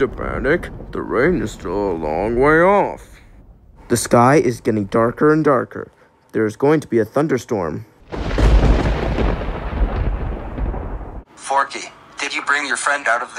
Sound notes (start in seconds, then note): 8.0 thunder collapses